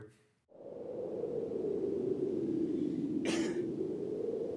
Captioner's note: wind whistles